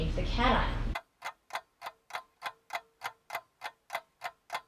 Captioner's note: clock ticking